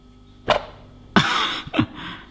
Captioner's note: pop; laughs